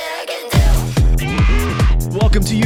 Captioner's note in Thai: เสียงตะโกน